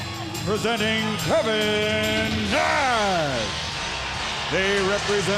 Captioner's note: crowd cheering